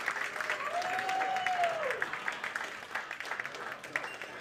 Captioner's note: cheers